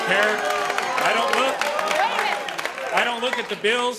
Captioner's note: audience claps